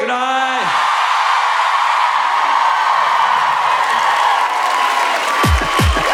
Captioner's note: cheering